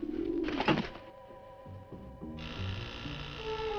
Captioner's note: dove cooing; dagger thudding; door buzzing